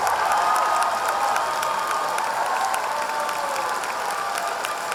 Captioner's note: audience cheering